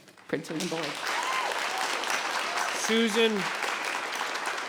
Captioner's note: audience applauds